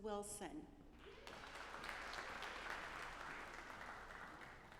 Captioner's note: audience applauding